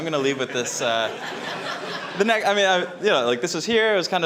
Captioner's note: audience laughing